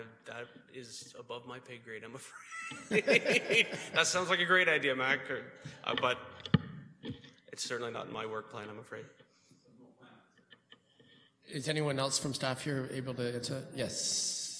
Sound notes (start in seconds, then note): 2.3 laughing; 4.5 chuckles